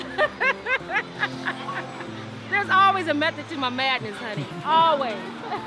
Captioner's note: laughs